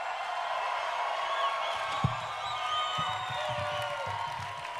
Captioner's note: crowd cheering